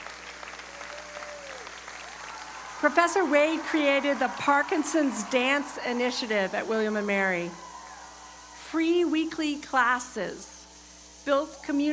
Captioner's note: applause